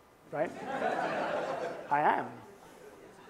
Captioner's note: laughter